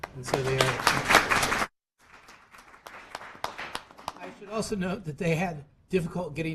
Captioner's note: applause